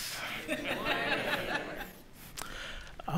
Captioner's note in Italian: Risate